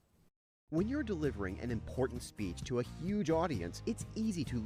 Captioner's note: voiceover